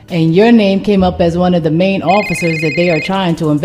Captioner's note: phone rings